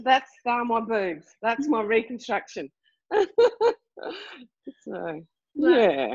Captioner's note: laughing